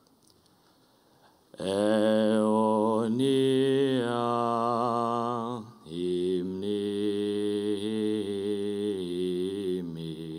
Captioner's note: chanting